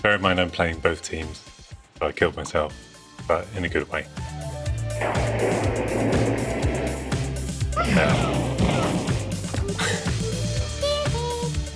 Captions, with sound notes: Bear in mind I'm playing both teams. I killed myself, but in a good way. (video game noises)